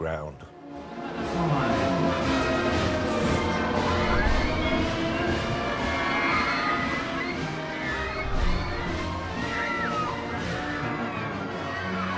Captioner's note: crowd Noise